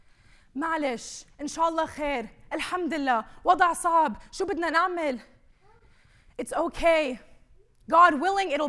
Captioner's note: speaking arabic